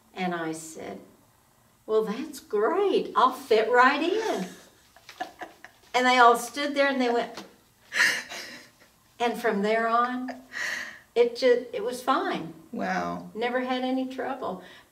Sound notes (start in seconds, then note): 3.9 laughing